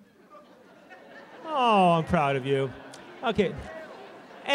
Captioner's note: laughter